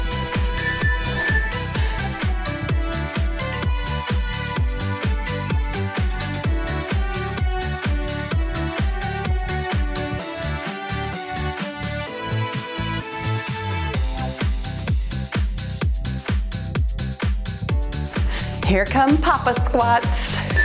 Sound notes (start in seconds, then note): 0.5 timer beeps; 1.8 cheerful music; 20.5 timer beeps